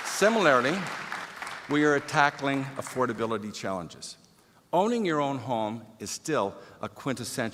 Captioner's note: applause